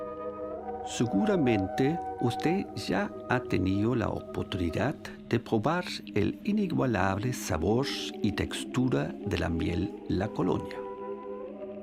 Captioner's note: speaks spanish